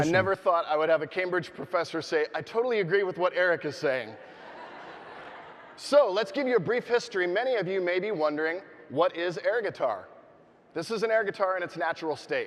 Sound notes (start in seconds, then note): 4.2 audience laughing